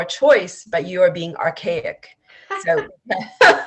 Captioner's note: laughs